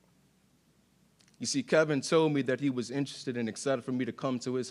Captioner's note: none